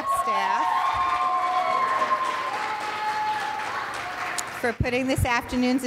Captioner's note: audience cheers and applauds